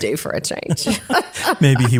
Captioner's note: laugh